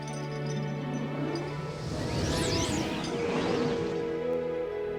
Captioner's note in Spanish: zumbido